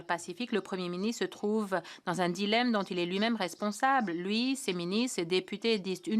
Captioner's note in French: voix de l'interprète